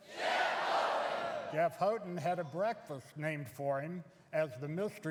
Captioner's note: crowd